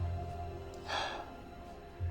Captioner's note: sighs